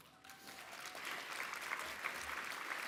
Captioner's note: applause